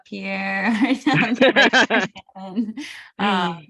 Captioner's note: laughter